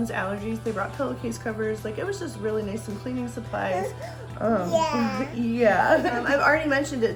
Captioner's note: laughs